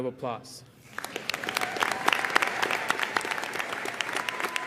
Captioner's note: audience applauding